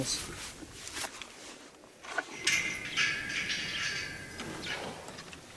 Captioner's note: gates clanging